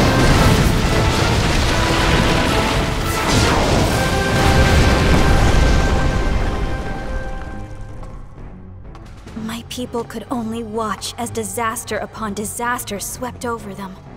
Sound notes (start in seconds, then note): 2.9 explodes